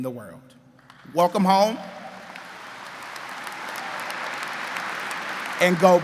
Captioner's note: crowd applauding